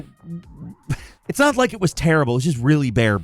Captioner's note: laughs